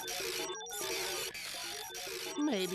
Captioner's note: machine whirring; beeping